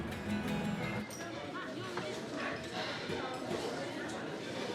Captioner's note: crowd chattering